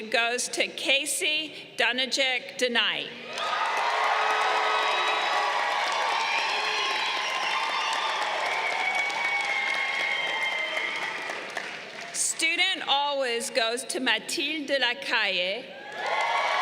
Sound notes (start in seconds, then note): 3.8 crowd cheering; 15.7 crowd cheering